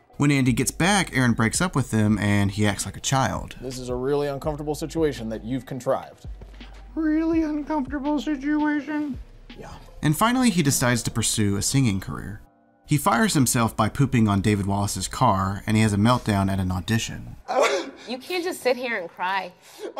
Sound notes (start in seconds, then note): 17.4 crying